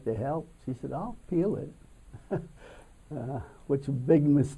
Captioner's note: laughs